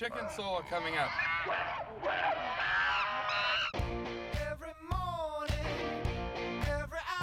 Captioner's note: monkey screeching, cow mooing